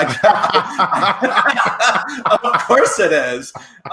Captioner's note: laughing